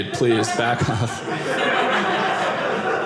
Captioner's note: audience laughing